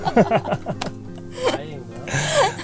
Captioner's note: laughing